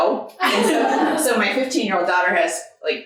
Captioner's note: audience laughing